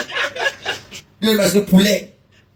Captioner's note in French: rires